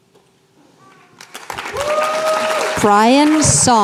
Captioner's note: applause